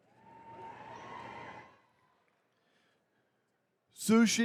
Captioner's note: attendees cheering